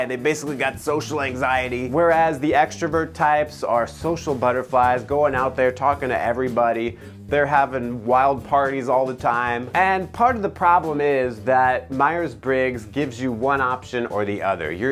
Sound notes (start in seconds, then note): none